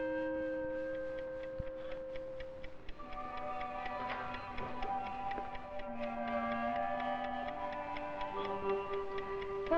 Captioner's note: clock ticking